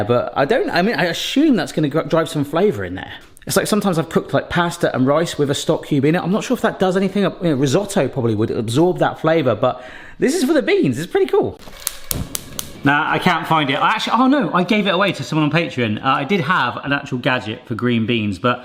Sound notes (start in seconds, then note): 11.7 igniter clicking; 11.8 gas hob hissing